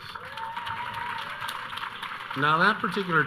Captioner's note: audience cheering